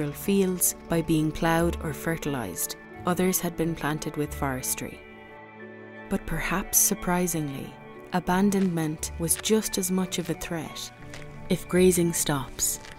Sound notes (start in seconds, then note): 0.0 sound of tractor passing; 10.9 pony chews